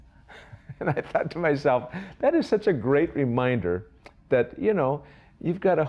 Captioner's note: laughs